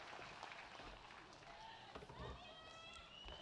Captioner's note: applause